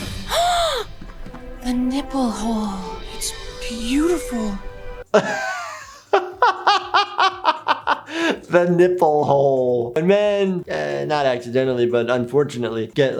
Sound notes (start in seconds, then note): 0.2 gasping; 5.1 laughing